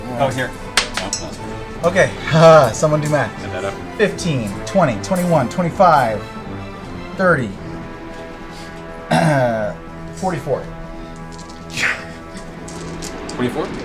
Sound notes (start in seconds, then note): 3.0 nervous laugh; 9.0 clears throat